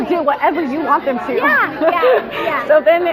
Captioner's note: laughs